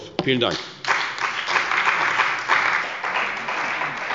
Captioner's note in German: Beifall bei der CDU und dem BÜNDNIS 90/DIE GRÜNEN